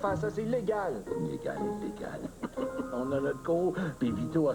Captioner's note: Rire